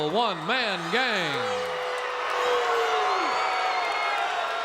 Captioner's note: crowd boos